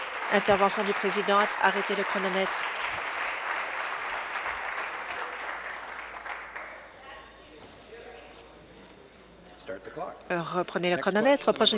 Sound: applause

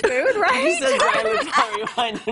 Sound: laughter

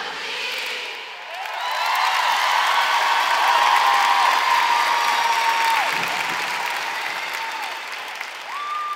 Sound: applause

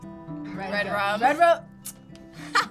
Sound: tsking

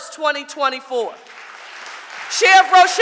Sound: audience applauding

